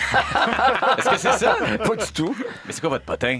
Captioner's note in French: rires